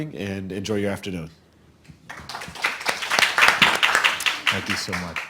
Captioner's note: audience clapping